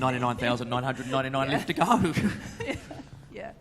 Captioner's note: laughing